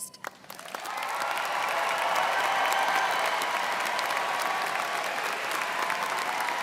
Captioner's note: students cheering and applauding